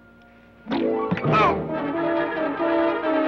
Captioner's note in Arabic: صوت ارتطام; يصرخ الشريف; موسيقى أوركسترالية درامية